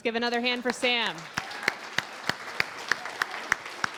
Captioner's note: applause